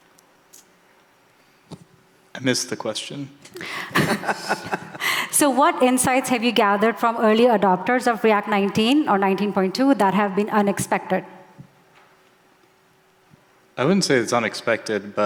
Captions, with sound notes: - Missed the question. (laughing) - So what insights have you gathered from early adopters of React 19 or 19.2 that have been unexpected? - I wouldn't say it's unexpected,